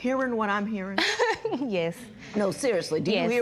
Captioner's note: laughs